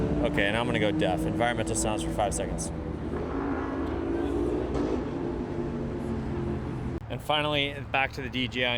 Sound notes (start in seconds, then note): 0.0 engine whirs and pops; 3.5 engines whir